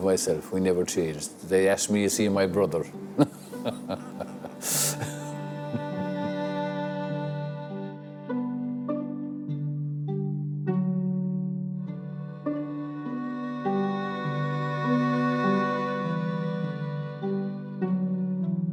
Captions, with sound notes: My dad is really the same as myself. We never changed. They ask me to see my brother. (laughing) (light slow music)